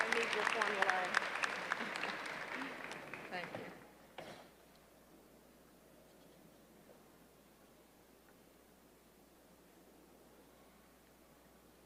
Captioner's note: applause